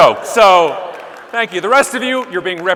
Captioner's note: audience laughing